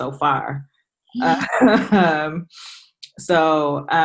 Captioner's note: laughs